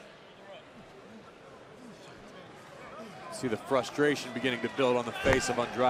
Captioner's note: crowd chatter